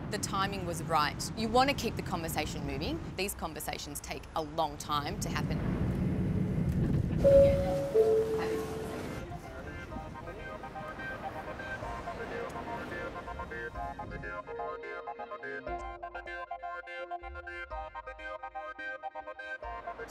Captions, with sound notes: The timing was right, you wanna keep the conversation moving, these conversations take a long time to happen. (announcement bell) (upbeat music)